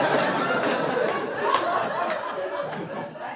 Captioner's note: laughter